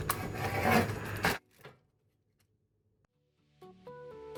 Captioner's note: slicing sound